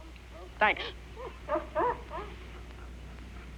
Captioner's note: dog Whimpering